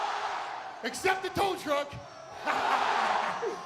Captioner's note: laughs